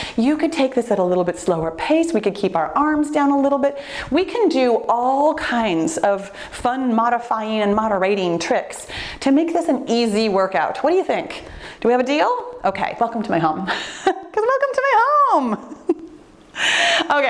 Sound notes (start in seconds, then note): 13.8 laughs